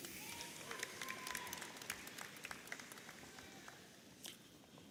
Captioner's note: audience applauding